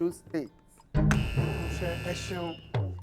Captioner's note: buzzer pressed